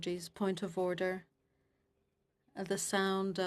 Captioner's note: speaking French